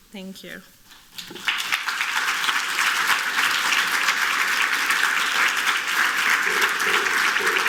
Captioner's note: applause; cultural drumming